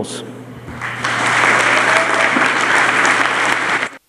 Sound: applause

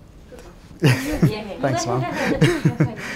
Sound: laughs

